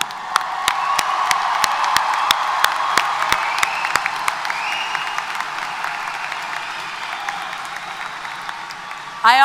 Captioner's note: applause & Cheers